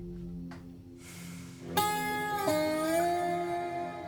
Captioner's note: Bill sighs